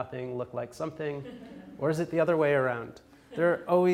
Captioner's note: audience laughs